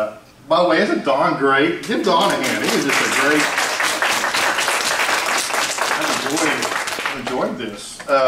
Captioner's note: applause